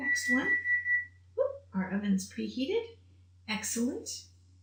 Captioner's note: beeping